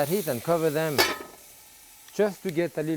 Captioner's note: lid clanging